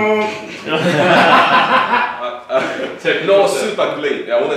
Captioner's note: laughter